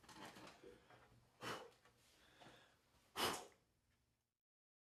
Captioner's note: deep exhaling